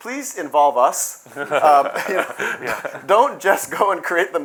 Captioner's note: laughter